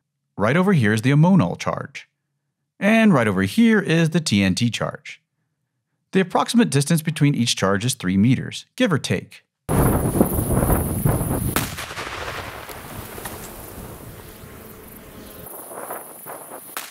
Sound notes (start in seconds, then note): 11.9 explosion